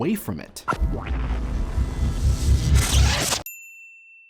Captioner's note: explosion